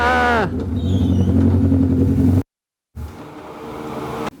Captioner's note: motorbike engine